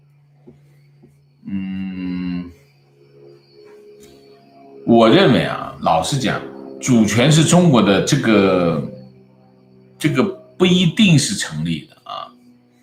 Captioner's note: argument